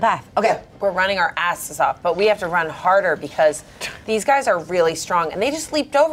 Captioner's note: none